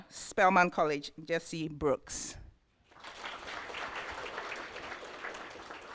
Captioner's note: applause